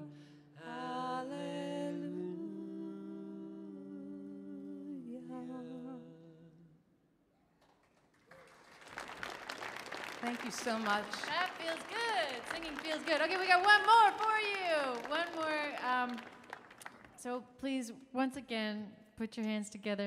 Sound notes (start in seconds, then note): 8.2 audience applauding; 8.2 audience cheering